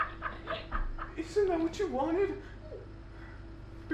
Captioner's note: normal voice